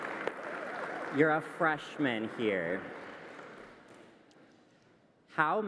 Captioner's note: applause